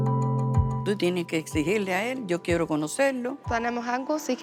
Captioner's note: speaking Spanish